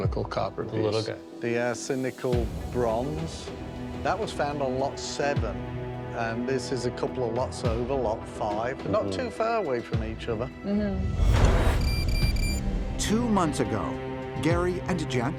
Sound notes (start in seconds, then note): 11.2 beeping; 11.3 switching sound